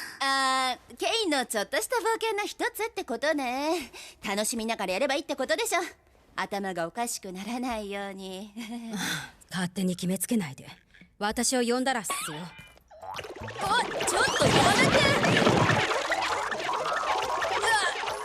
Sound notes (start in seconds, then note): 7.6 chuckles nervously; 9.2 sighs; 12.9 sproing!; 15.2 gloinks boinging, squeaking